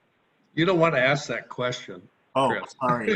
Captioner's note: laughs